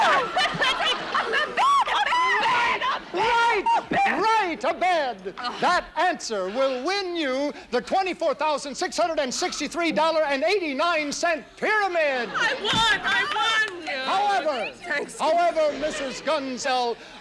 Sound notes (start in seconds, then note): 13.2 clapping